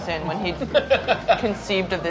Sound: laughing

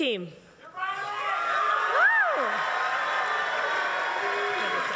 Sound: audience applauses

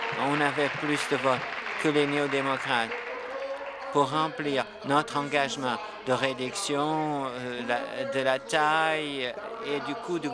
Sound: applause

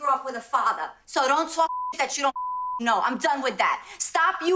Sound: beep

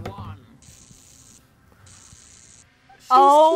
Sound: zaps

